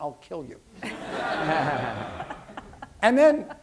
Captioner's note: laughter